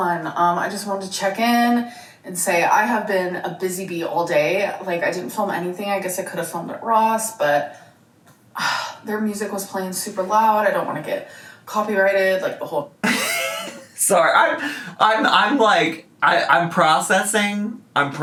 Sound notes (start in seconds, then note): 8.6 sighs; 13.0 laughs